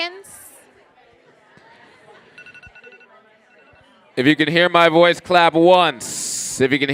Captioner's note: timer going off